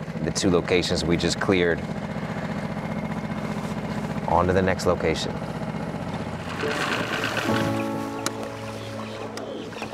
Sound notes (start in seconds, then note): 2.6 boat engine revving; 6.3 ominous music